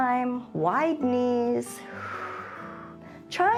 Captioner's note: exhales